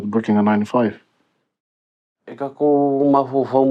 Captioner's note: master Tattoist speaks Sāmoan – hard copy English translation on screen